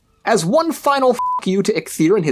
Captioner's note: beep